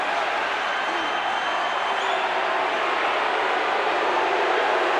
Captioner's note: crowd boos